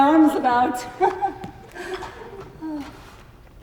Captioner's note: laughs; sighs